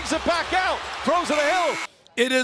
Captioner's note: buzzer